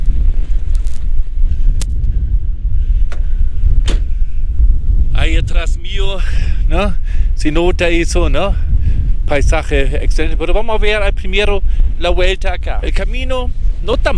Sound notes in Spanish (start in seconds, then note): 1.6 viento